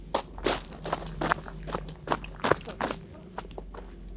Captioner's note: footsteps shuffle